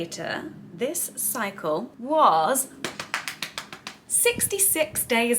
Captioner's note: slaps